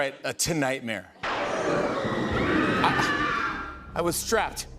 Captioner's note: thunder crashes, woman screams